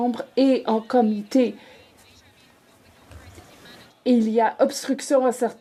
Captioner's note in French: voix de l'interprète